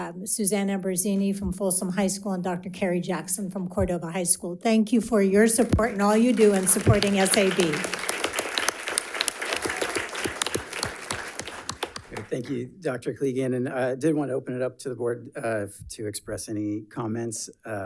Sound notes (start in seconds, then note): 8.2 audience applauds